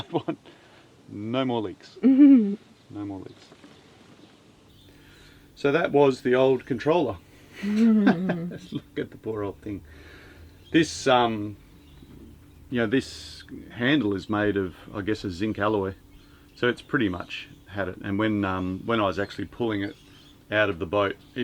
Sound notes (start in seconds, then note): 0.0 laughs; 7.5 laughs